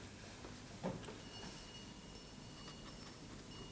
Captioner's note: bell rings